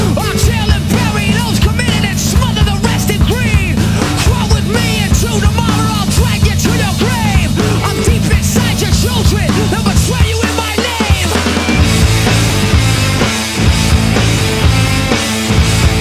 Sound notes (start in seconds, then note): none